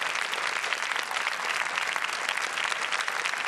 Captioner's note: applause